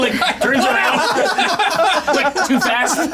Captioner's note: everyone laughing